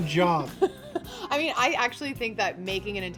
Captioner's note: laughs